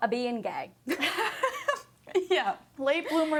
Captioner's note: both laugh